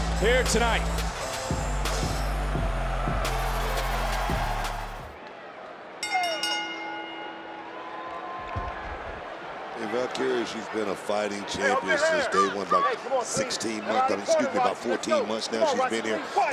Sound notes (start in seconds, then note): 3.5 audience cheers; 3.5 upbeat music continues; 6.0 bell rings